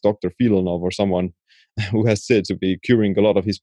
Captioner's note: chuckling